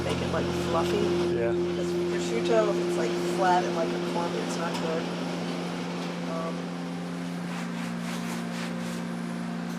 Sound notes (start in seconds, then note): 2.4 woman speaking faintly